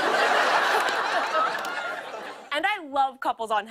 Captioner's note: laughter